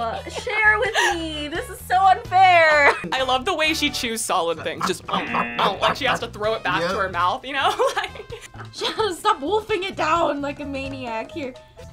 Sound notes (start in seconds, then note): 5.8 chewing noises